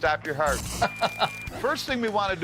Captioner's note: both laughing